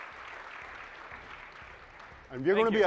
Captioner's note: applause